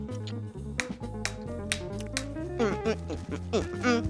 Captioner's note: taps serving utensil rhythmically